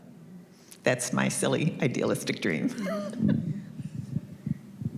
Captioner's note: chuckles